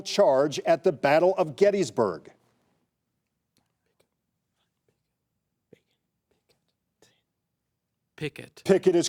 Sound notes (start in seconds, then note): 3.0 contestants whisper